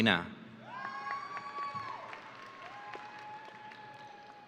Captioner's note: audience cheering